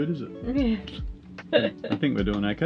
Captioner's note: laughing